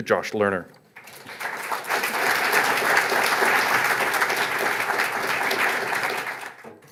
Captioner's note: applause